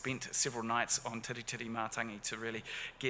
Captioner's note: speaks in foreign language